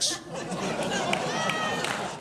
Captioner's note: audience laughs; audience clapping